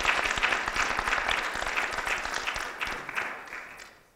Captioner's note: applause